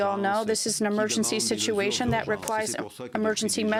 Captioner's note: speaking french